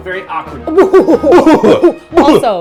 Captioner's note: evil laugh